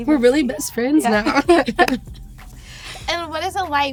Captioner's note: both laughing